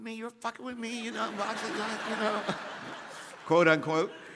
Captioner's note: audience laughing